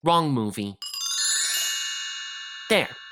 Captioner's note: chimes ringing